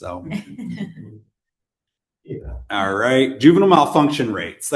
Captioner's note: laughter